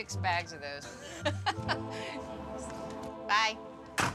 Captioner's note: laughs